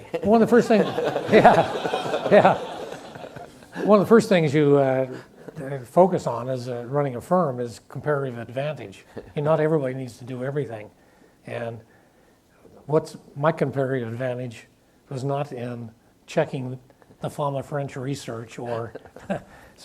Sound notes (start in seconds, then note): 0.2 audience laughs; 18.6 chuckles